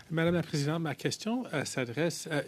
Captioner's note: speaking French